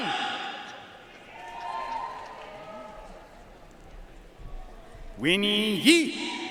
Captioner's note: audience cheering and applauding